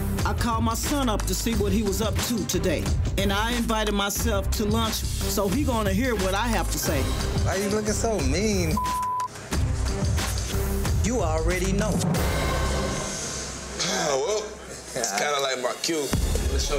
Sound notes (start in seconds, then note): 8.7 beep; 12.5 intense music